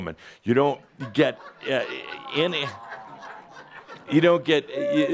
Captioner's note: laughter and says “Ohhh!”